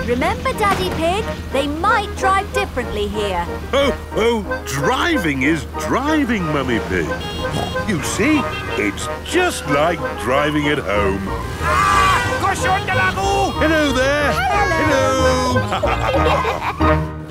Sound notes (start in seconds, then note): 12.2 yells; 15.4 laughter